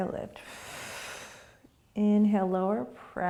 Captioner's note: exhaling